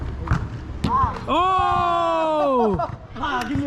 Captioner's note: laughs